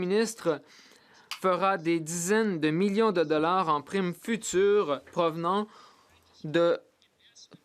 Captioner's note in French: voix de l'interprète